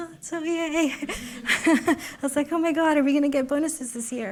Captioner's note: laughs